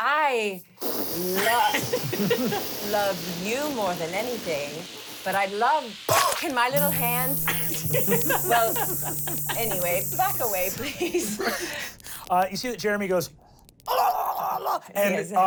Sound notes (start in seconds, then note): 2.6 whooshing; 6.3 buzzing